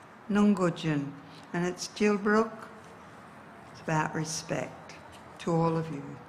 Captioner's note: speaks in indigenous dialect